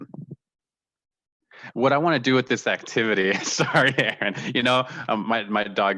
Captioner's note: laughter